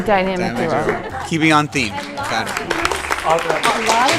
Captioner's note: crowd and judges clapping